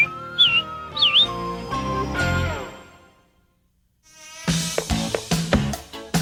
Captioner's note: robin song